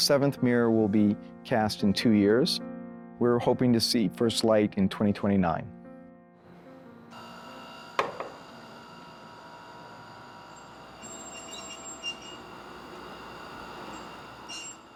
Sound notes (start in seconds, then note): 6.4 electric door buzzing; 9.9 metal screeching; 11.1 electric door buzzing; 14.7 metal screeching